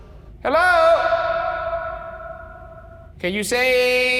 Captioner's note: voice echoing